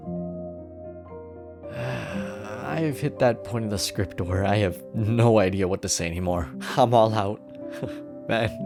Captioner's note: sigh; inhales; chuckles